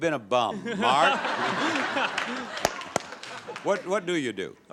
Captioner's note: audience laughs